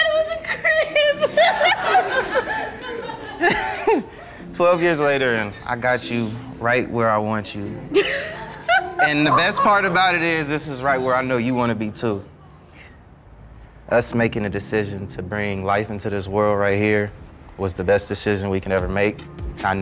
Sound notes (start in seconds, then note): 0.1 laughing; 7.9 laughing